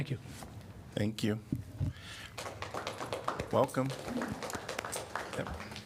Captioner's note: applause